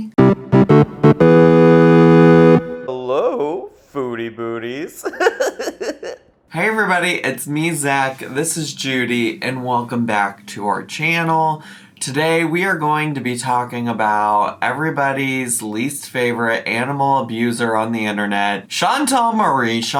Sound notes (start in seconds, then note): 0.0 upbeat music; 4.9 giggling